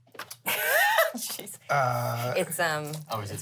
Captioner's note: laughs